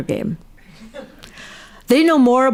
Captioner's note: audience laughs